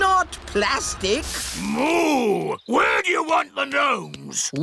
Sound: boos

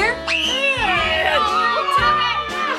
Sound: screams

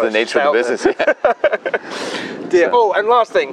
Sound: both laugh

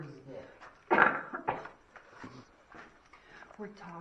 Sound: cough

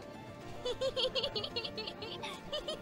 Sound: KOTONOHA giggles

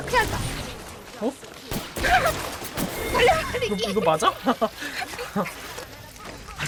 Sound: laughs

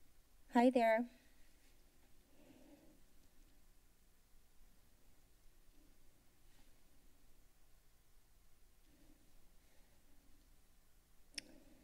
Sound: pause

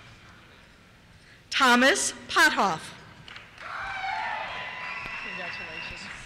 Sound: cheers

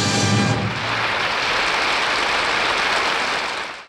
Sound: audience applauding

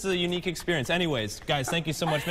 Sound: laughter

